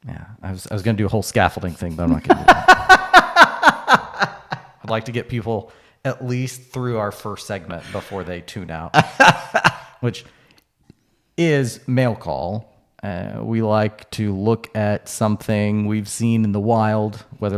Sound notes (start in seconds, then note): 1.8 laughing